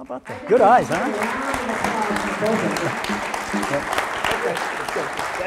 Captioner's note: audience applause